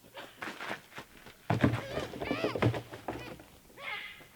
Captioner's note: deer man noises